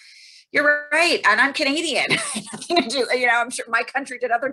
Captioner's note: laughing